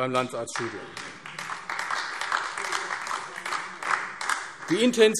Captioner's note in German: Beifall AfD